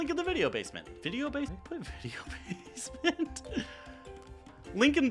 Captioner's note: laughs